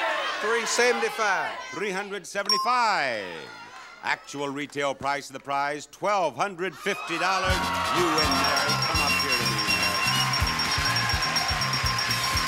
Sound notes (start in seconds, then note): 9.8 audience cheering; 9.8 upbeat music; 10.7 bell dinging